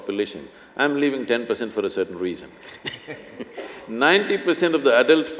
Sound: laughs

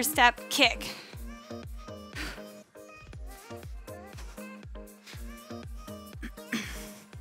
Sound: soft upbeat music; breathes

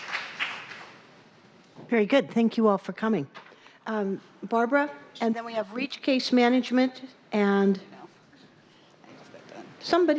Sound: applause

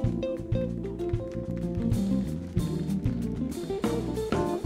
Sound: audience applauding

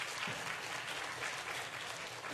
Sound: applause

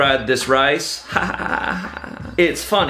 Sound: laughs

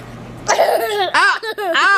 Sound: laughs

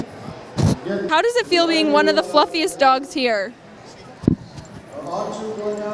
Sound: dog touching mic

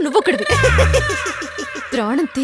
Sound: laughs

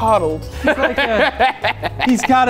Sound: laughs

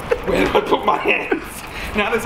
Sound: laughs

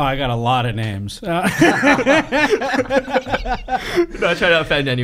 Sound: laughing

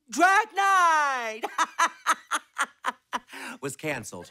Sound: laughing

